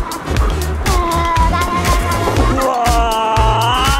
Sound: shuddering

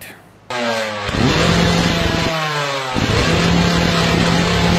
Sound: engine roaring

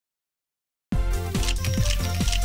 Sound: camera clicks

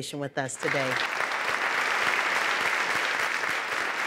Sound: applause

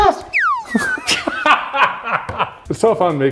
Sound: laughing

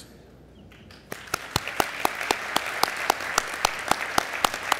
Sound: applause

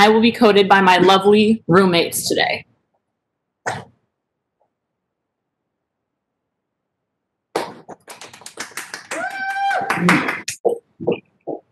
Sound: clapping

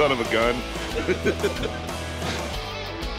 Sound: laughing

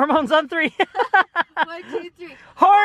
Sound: laughing

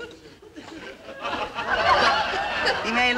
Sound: audience laughing

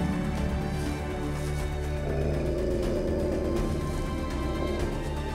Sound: wolf growls

